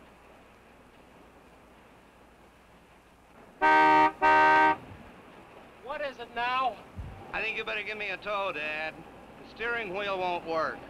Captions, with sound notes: (horn honking) - What is it now? - I think you better gimme a tow, Dad. The steering wheel won't work.